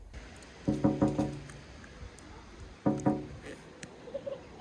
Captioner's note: knocking on window